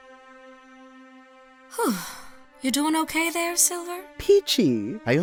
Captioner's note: sigh